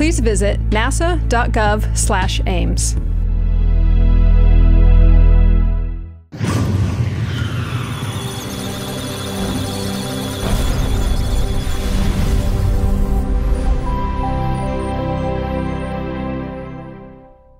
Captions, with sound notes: please visit NASA dot gov slash Ames. (Electronic Sounds of Data) (Musical Tones)